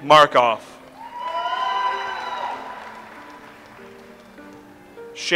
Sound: audience applauds

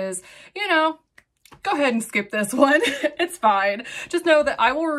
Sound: chuckles

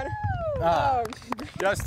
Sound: applause

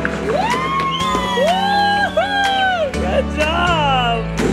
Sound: cheering

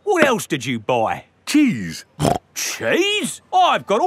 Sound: snorts

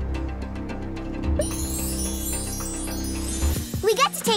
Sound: sparkling sound

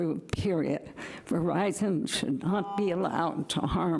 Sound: timer buzzing

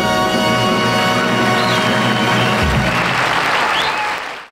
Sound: audience cheers and applauds

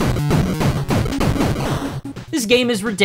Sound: game audio

